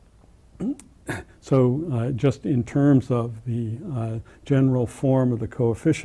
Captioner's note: cough